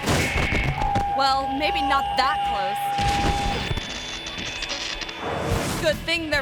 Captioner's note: person thuds; person thuds